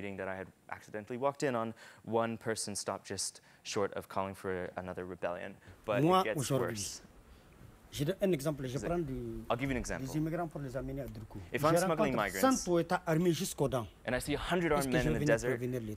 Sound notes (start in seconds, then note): 6.9 speaks in a foreign language; 12.5 speaks in a foreign language